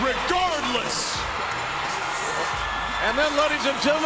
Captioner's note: audience cheers